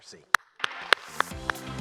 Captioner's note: applause